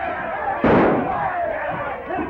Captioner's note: gunshot